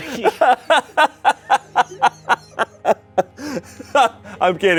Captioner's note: Shayne laughs